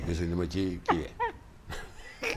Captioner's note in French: Rires